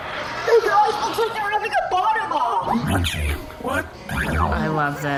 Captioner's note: quietly